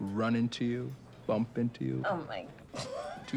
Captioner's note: laughing